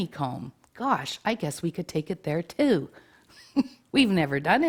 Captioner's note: chuckles